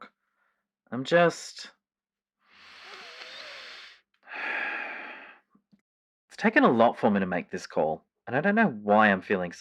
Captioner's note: deep sigh